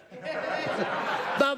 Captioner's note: laughter